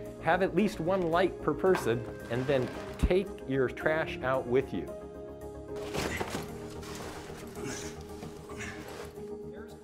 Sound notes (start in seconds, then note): 5.8 clattering; 7.6 grunting